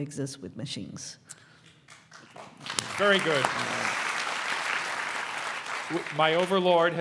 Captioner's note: applause